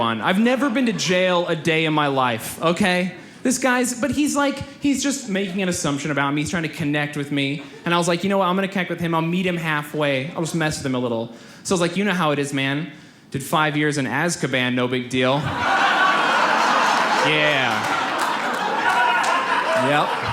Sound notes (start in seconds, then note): 15.4 audience laughs